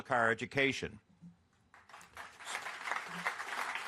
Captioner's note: applause